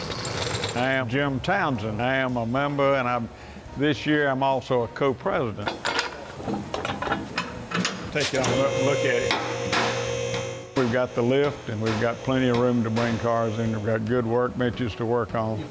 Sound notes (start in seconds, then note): 0.0 metallic rattling; 5.6 metallic clanking; 8.1 lift whirring